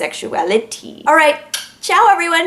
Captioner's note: tongue click